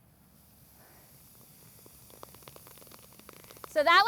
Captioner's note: fizzing, popping